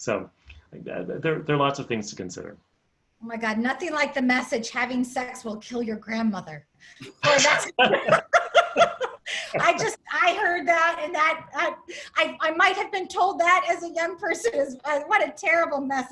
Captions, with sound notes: So there are lots of things to consider. - My god, nothing like the message having sex will kill your grandmother. [LAUGHTER] I heard that, and I might have been told that as a young person. What a terrible message.